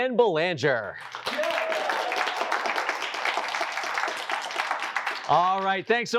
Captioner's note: applause